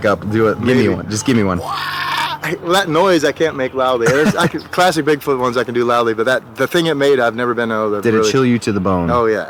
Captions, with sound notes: Do it. Just give me one. [grunting] That noise I can't make loudly. Classic Bigfoot ones I can do. But the thing that made it I've never heard it. - Did it chill you to the bone? - Yeah.